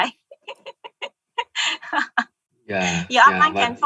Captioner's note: laughing